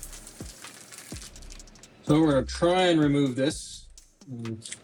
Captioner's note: crackling